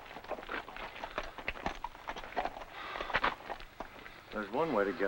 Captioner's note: Voorhees breathes heavily